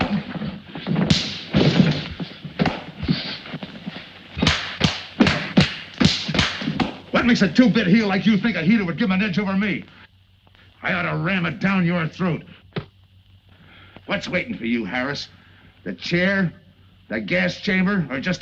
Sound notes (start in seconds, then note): 0.0 punches thud; 4.5 slaps cracking